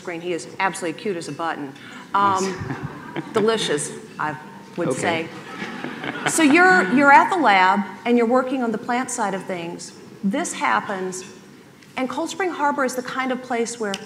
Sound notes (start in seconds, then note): 2.2 chuckling; 4.9 laughing